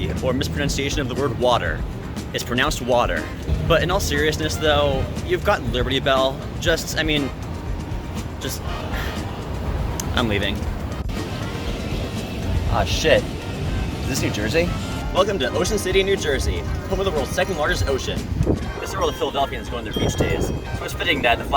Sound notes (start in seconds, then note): 10.1 sigh